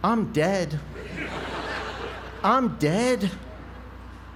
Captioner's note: laugh